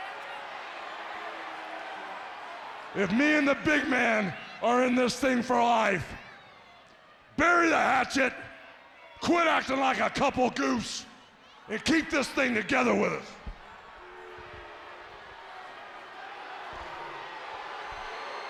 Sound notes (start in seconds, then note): 14.6 audience cheering